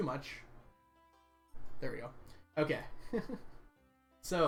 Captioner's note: laughs